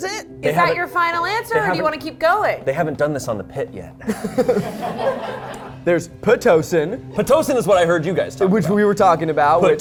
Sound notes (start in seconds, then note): 4.0 and crew laugh